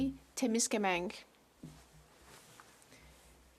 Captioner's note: speaking French